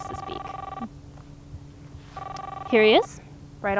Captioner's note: cellphone ringing